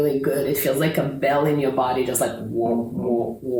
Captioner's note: ringing noise